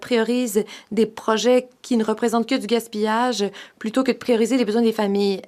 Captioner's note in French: voix de l'interprète